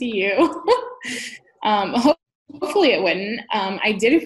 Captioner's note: laughs